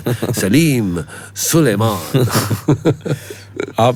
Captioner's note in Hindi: हंसी